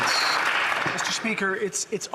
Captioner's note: some Applause